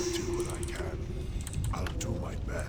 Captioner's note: none